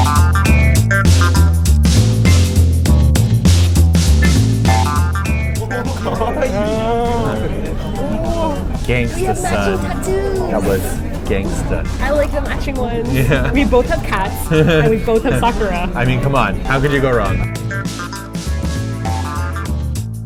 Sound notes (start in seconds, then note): 6.2 staff speaking Japanese, chuckling; 15.3 chuckles